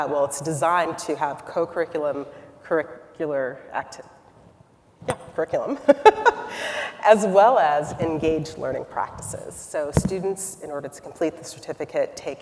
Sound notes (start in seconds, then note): 5.8 laughs